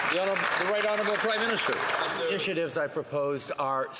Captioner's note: some Applause